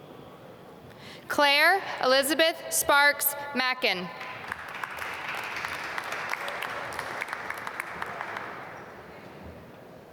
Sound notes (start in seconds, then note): 4.1 applause